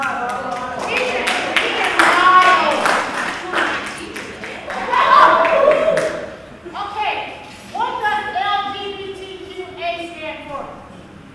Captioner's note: applause